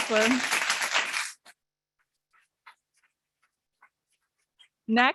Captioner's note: audience clapping